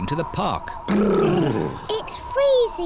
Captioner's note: all shiver